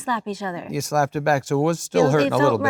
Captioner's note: laughs